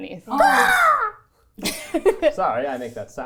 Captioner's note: cawing